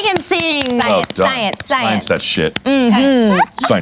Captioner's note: applause